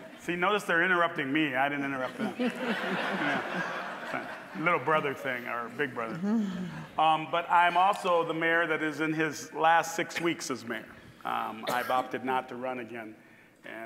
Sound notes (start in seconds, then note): 2.0 audience laughing